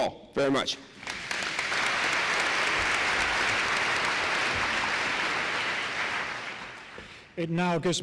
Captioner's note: applause